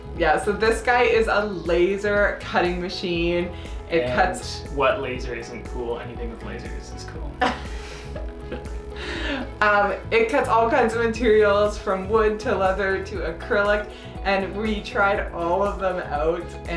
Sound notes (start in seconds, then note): 7.4 chuckling